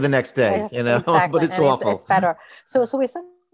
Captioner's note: laughs